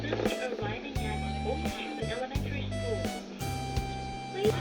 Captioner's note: announcement